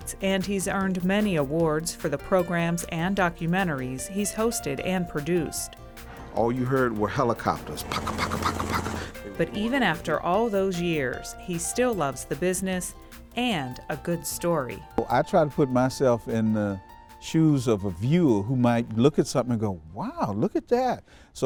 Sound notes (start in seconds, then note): 7.6 helicopter engines revving